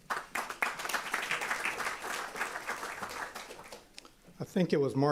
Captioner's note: applause